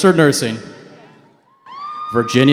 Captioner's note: cheering